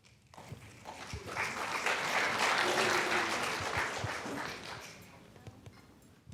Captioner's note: applause